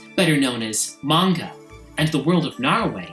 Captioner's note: none